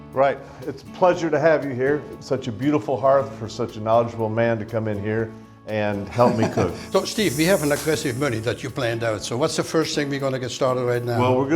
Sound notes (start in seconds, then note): 6.2 laughs